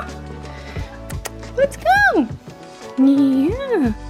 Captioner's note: smacking lips